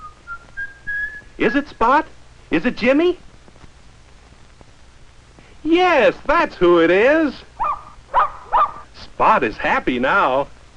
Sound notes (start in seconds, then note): 7.6 excited barking